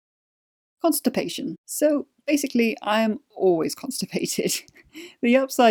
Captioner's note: chuckle